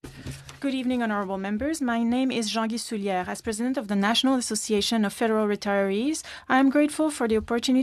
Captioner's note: speaking French